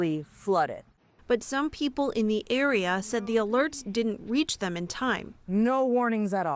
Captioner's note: voice-over